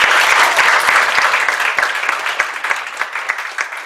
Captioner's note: applause